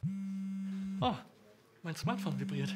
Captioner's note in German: Handyvibrieren